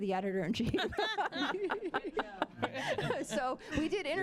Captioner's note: all laughing